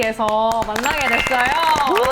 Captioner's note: applause